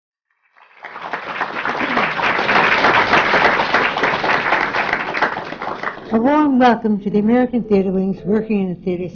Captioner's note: applause